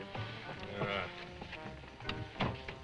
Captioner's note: Otto grunts; upbeat jazz music